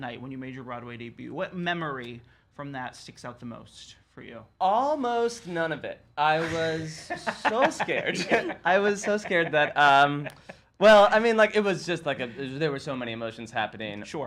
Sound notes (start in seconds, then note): 6.3 laughs